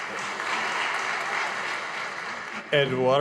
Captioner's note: audience applauding